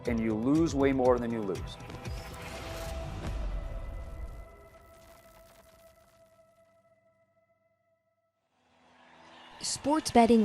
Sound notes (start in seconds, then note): 2.7 static sizzling; 8.6 crowd cheering